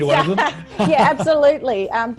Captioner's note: laughs